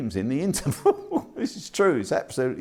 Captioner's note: laughs